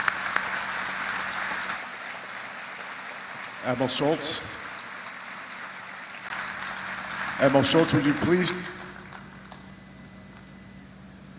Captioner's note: applause